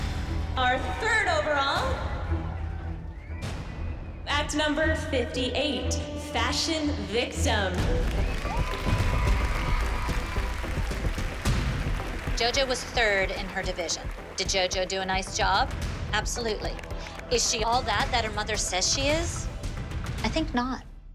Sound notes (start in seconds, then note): 2.1 tense music playing; 7.5 cheering, applause